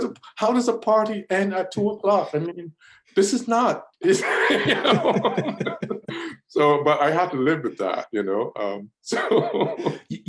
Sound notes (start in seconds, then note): 4.0 laughs; 9.1 laughs